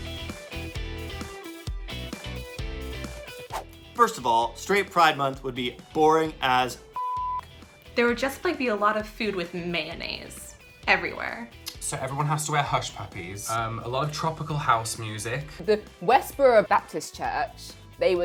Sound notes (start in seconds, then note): 0.1 upbeat music; 6.9 beep